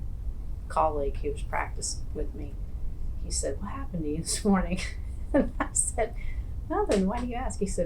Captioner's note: laughs